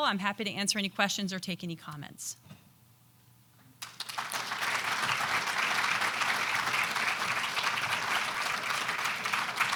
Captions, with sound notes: I'm happy to answer any questions or take any comments. (audience applauding)